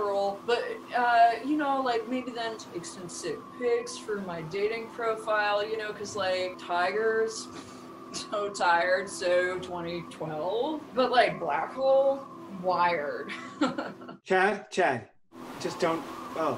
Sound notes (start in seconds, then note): 13.3 chuckles